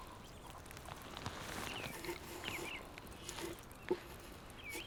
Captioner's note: birds chirping